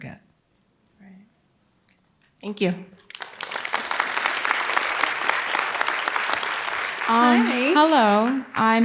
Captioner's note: applause